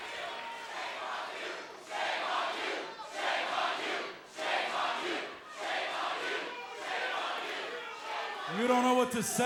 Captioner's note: fans chanting